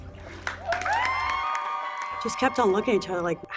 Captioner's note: cheering